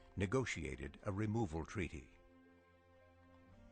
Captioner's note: none